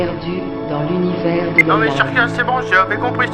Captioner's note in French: bip